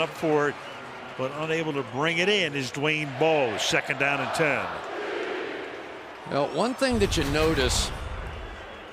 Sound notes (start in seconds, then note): 5.3 crowd chanting